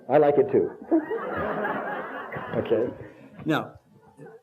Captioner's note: laughter